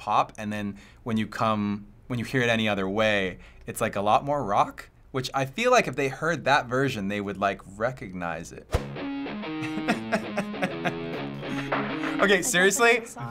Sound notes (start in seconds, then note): 9.6 chuckling